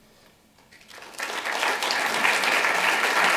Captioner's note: applause